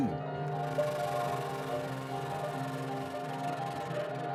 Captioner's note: fluttering